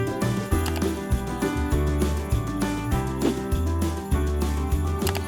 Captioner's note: gentle upbeat music; computer mouse clicks